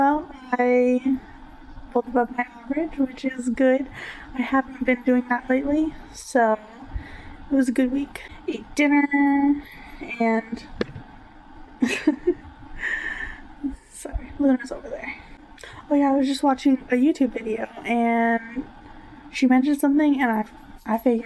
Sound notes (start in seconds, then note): 11.8 laughs